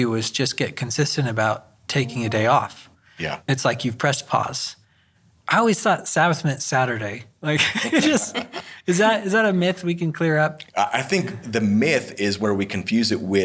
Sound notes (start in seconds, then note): 7.6 all chuckling